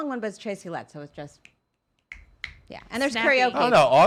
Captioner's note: snapping fingers